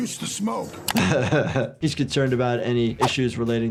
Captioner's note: laughs